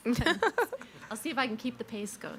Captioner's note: both chuckling